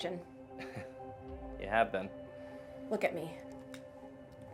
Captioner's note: chuckles